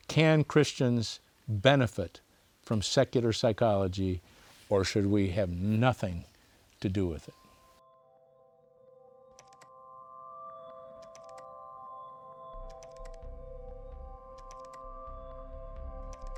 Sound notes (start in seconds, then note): 7.3 instrumental music plays; 11.0 keyboard clacking